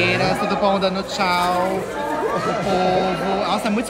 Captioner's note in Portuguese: falatório